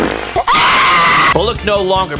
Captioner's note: boy screaming